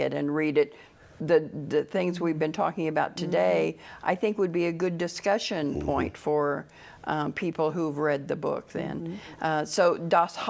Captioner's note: sounds of agreement